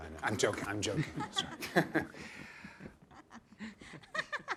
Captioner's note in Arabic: ضحك جماعي; تضحك